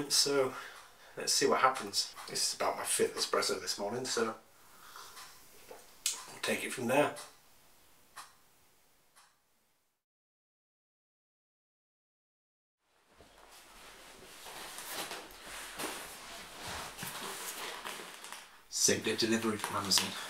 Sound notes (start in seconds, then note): 13.0 footsteps